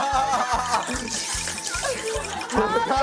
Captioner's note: slurping